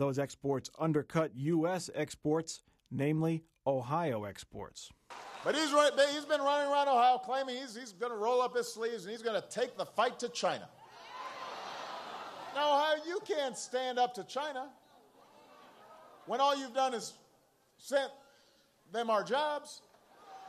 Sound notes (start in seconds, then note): 8.2 cheers